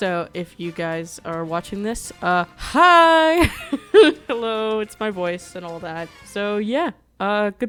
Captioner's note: chuckles